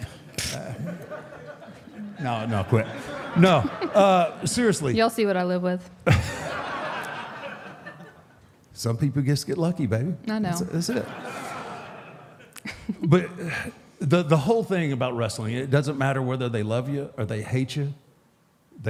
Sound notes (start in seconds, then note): 0.6 audience laughs; 6.0 audience laughs; 10.6 audience laughs; 12.5 Michelle laughs